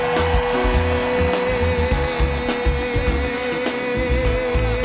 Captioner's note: applause